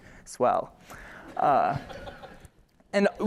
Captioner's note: laughter